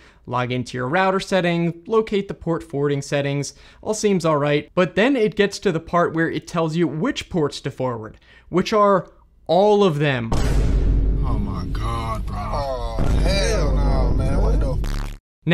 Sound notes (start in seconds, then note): 10.3 Vine Boom Sound Effect; 11.2 meme Sound Effect: "Oh my god bruh. Aw hell naw man, what the ****"